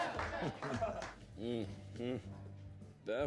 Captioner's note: chuckles